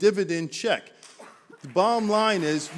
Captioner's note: applause